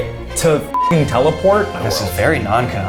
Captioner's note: beep